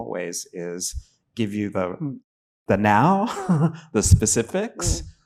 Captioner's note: chuckling